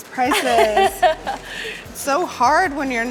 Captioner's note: laughing